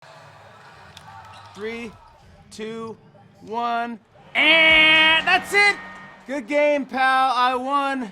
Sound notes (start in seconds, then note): 1.0 crowd cheers; 4.0 imitates buzzer